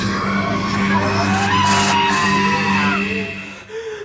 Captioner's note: Gina screams; Billy panting